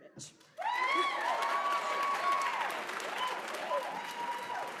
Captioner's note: applause